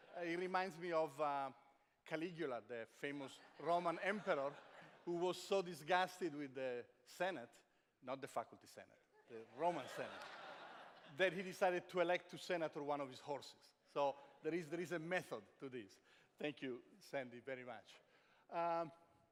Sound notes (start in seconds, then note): 9.5 laughter